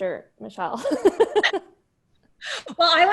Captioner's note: laughter